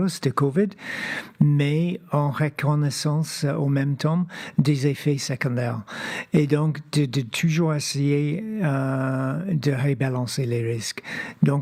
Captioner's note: speaking French